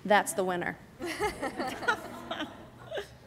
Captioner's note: laughter